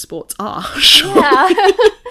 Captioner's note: everyone laughs